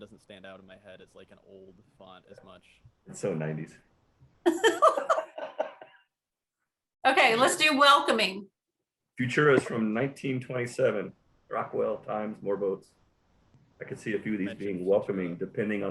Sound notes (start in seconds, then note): 4.4 laughter